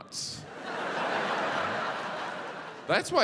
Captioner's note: audience laughs